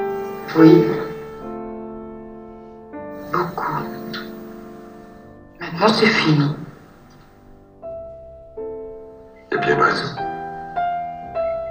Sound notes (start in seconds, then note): 0.3 voiceover of woman speaking in french; 3.2 voiceover of woman speaking in french; 7.5 sad piano music; 9.4 voiceover of man speaking in french